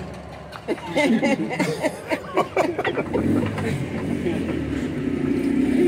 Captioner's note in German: Lachen